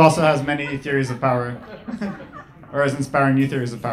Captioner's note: laughing